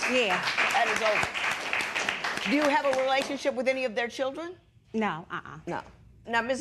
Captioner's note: applause